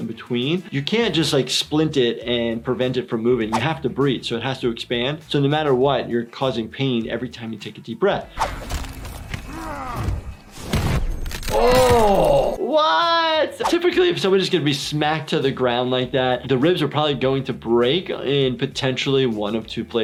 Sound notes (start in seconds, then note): 8.4 fighting noises; 9.2 body slamming; 9.4 grunting; 9.5 metal pieces rattling